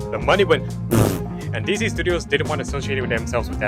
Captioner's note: blows raspberry